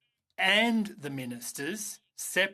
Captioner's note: speaking in French